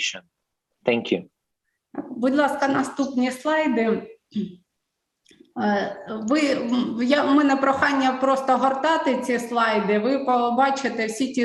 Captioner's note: foreign Language